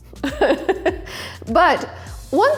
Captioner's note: laughs